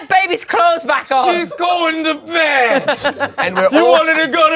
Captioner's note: laughs